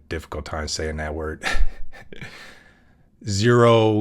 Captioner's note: laugh